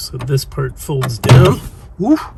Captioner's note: loud thunk sound